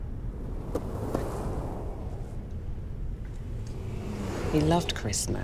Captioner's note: cars whirring past